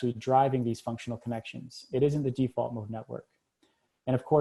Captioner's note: reading text